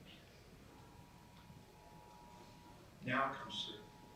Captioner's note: phone rings